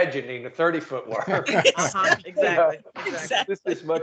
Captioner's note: laughing